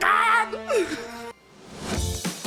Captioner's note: laughs excitedly